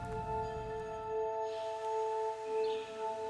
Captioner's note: birds chirping